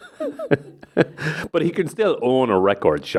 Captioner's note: laughs; person in background laughs